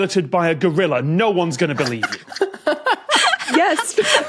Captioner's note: cackle